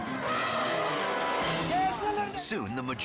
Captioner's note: attacking elephant trumpets